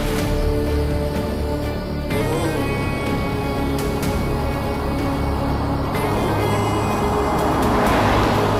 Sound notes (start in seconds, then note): 3.1 Vehicle approaching